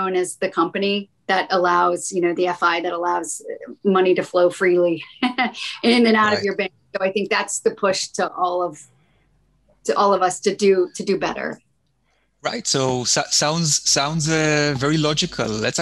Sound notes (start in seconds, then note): 5.0 laughing